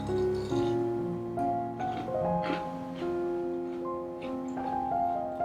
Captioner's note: nom nom nom